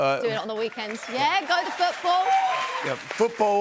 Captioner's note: cheers and applause